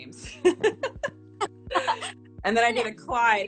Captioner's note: laughing